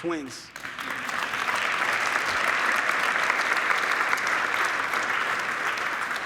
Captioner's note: audience clapping